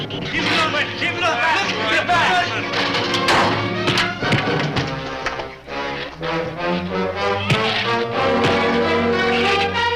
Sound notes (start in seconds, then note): 3.8 fist thuds; 8.4 fist thuds